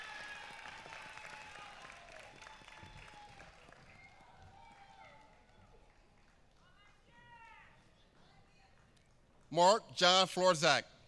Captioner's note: applause